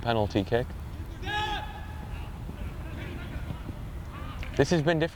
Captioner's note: players shouting